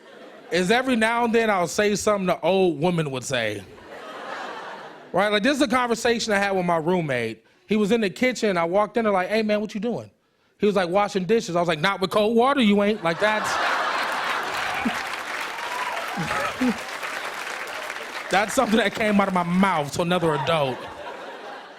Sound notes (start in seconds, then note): 3.7 laughter; 14.0 laughter and applause